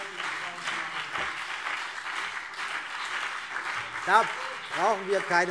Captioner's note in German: Beifall BÜNDNIS 90/DIE GRÜNEN